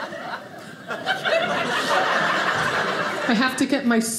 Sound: audience laughing

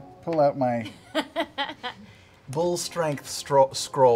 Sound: laughing

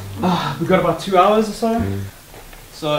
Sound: sighs

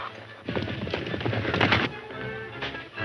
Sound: horses galloping; dramatic music

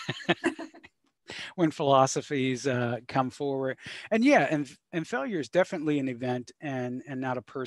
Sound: laughs

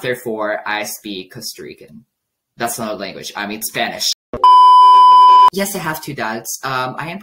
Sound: beeeep

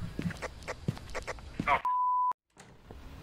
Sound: over Radio

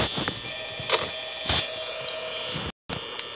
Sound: phone rings

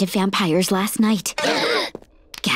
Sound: gasping

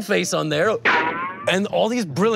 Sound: playful sound

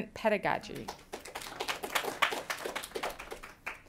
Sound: applause

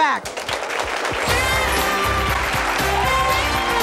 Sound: audience applauding

